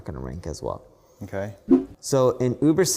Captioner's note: graphics whooshing